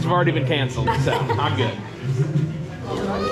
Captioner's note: laughs